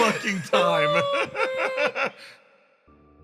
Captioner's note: laughs